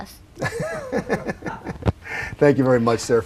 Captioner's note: laughing